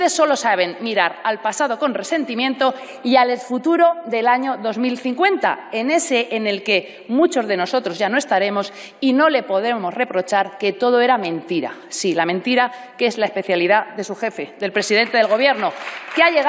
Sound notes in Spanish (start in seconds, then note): 14.9 aplausos